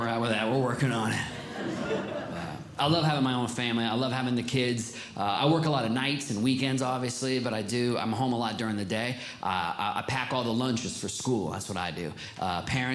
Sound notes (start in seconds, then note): 1.0 audience Laughing